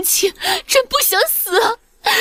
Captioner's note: Shen Qinghuan cries